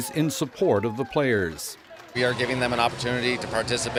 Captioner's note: cheers